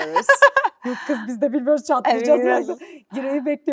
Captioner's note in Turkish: kahkaha